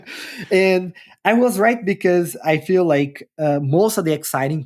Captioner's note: laughter